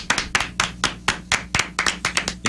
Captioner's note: clapping